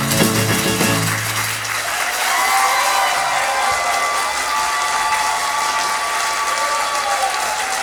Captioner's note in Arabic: توقف الموسيقى، تصفيق